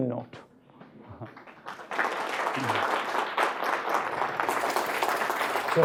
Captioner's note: applause